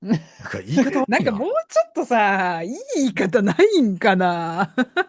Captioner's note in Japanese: 笑い